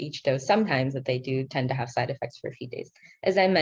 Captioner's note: speaking in foreign language